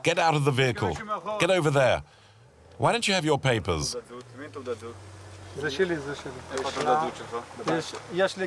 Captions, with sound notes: Get out of the vehicle, get over there! Why don't you have your papers? [Hebrew spoken audio]